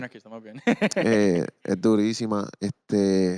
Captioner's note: laughing